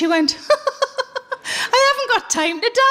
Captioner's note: laughing